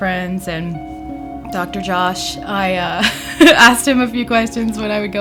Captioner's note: chuckles